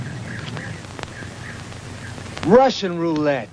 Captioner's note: bullets clinking; birds chirping